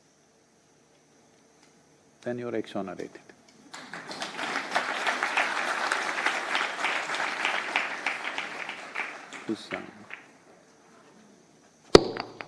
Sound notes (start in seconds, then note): 7.9 applause